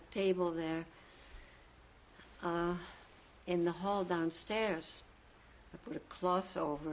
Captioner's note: pauses for 3 seconds